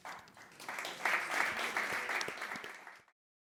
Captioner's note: applause